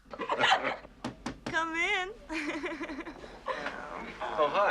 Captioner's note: Стук в дверь